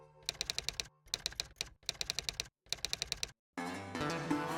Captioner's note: typewriter sounds